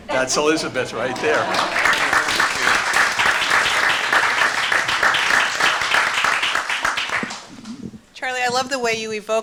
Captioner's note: applause